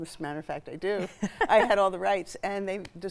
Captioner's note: chuckling